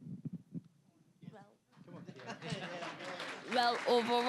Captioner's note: audience laughing; applause; with Barbadian accent